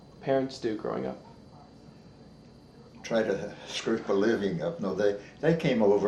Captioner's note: chuckles